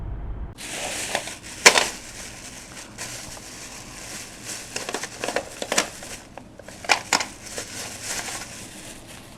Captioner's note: plastic bag rustling